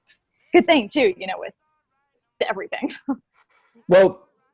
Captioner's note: brief chuckle